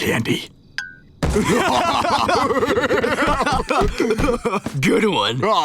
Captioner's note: laughing